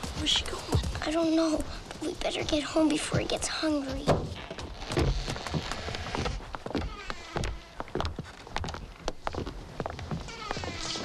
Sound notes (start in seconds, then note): 3.8 hinges creak; 3.9 door thumps